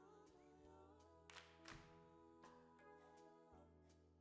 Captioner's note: clap